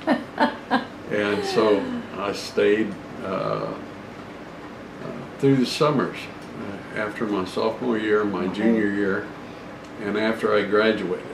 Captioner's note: laughter